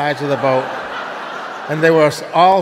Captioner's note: audience laughing